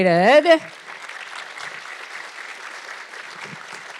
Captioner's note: audience clapping